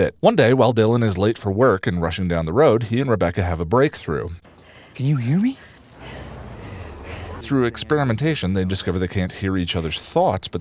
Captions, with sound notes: One day, while Dylan is late for work and rushing down the road, he and Rebecca have a breakthrough. "Can you hear me?" [heavy breathing] Through experimentation, they discover they can’t hear each other's thoughts,